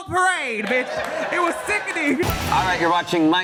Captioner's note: audience laughs